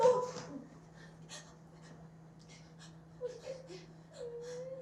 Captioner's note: cries